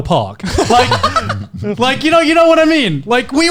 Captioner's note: laughing